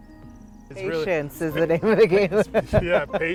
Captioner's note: laughs